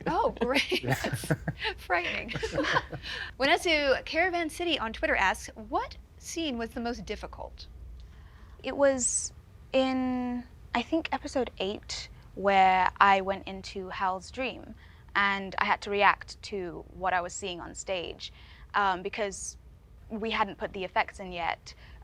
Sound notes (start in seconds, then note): 2.4 Boyd chuckles